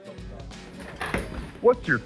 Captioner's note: bar stool moves